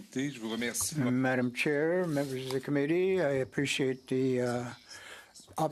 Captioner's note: speaking French